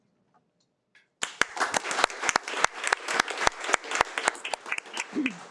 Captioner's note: participants applauds